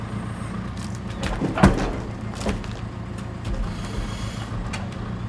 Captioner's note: log thumping